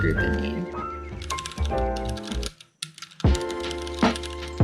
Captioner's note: typing; upbeat music